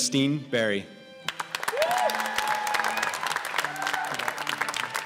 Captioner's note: cheers and applause